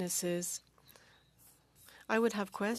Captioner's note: speaking French